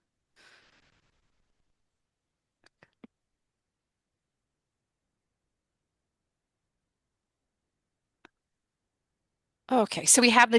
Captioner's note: silence